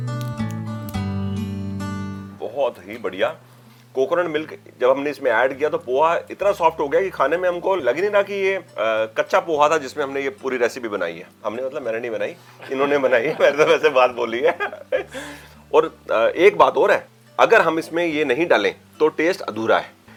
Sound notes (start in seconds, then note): 12.5 laughter